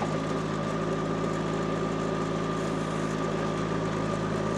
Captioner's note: forklift engine rumbling